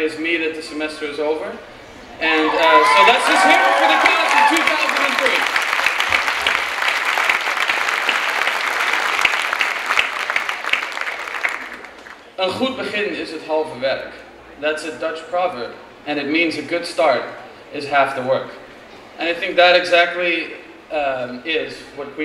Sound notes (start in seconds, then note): 4.6 clapping and cheering; 12.5 speaking in Dutch